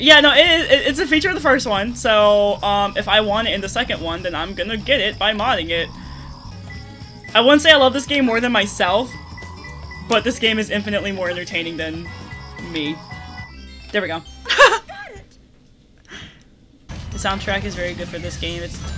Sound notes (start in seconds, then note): 6.0 radar pings; 14.4 laughter